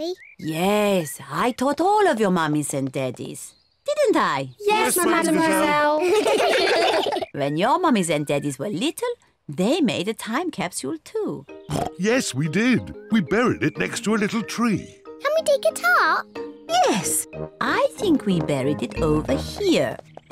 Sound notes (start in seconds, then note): 5.4 all laugh; 11.6 oinks